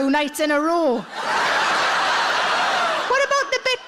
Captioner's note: audience laughs